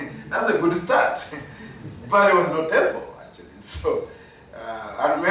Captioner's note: chuckle; chuckle